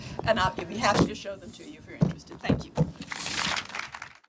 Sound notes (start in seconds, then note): 3.1 audience applause